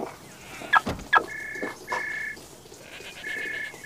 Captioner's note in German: Handy klingelt